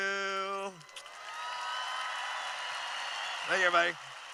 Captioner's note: cheering